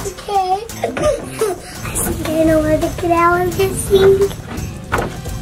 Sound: laughs

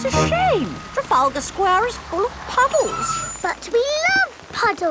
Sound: tires screeching

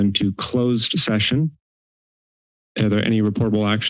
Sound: silence

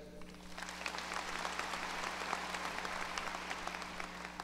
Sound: audience applause

